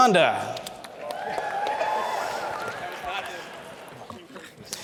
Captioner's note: crowd Cheers